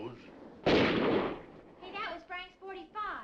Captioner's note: guns firing